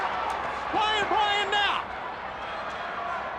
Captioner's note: crowd cheering